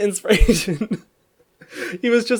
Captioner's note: laughs